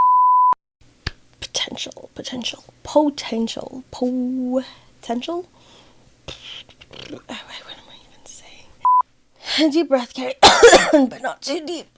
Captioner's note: cough